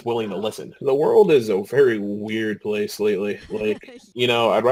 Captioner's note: laughing